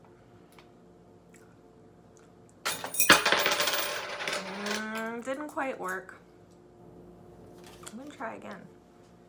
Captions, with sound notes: (coins jingling) Hmm, didn't quite work. Let me try again.